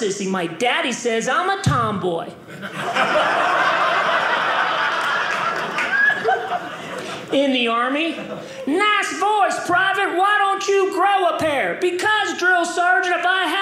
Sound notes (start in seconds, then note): 2.4 audience laughing